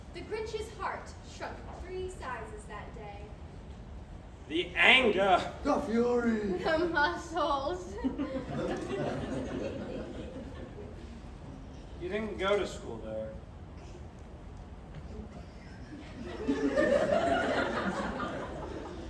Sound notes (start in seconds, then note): 7.9 crowd chuckles; 15.3 crowd laughing